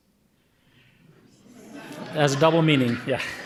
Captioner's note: audience laughing